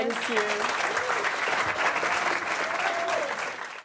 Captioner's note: audience applause